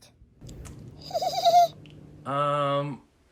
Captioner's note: giggling